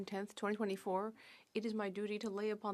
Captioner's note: speaking French